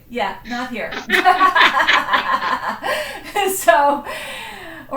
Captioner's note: laughter